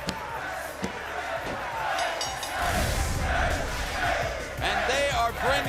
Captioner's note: bell ringing